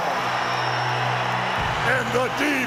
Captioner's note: audience cheers